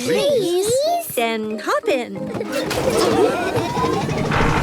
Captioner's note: laughing